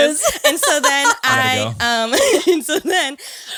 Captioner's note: laughs